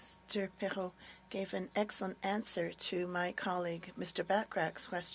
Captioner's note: speaking French